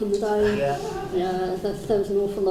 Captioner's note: crowd hums